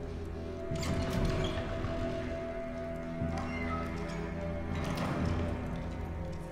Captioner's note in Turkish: Kapı Sesi